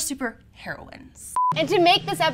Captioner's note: monotonous high pitch sound